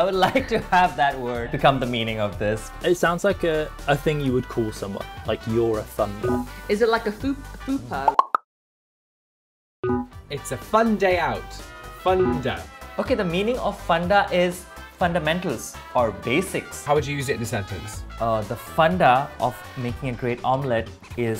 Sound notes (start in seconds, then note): 8.1 air popping; 9.8 bell beeping